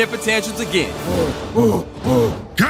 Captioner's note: grunting